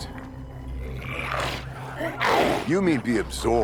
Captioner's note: glowzies growling